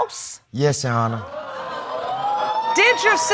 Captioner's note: audience cheer